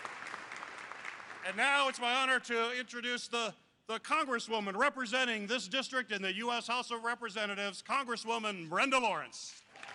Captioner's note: applause